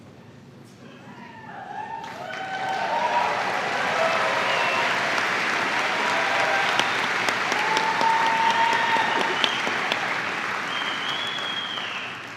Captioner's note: cheers and applause